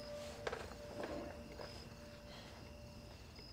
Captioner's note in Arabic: يلعب الكاسيت